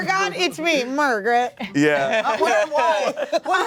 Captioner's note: laughter